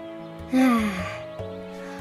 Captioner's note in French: soupir